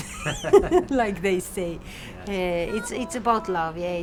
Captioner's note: laughs